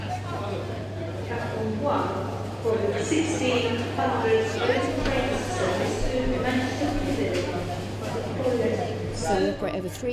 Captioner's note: train station announcement